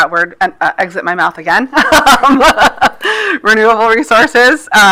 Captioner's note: laughs